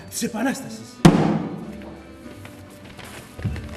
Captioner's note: πυροβολισμός